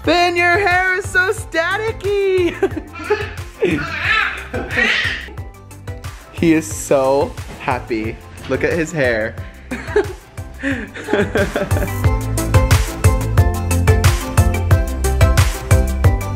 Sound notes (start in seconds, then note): 2.4 laughs; 3.6 babbling; 10.6 laughs; 13.3 upbeat pop music